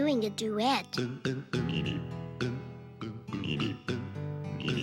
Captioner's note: frogs croak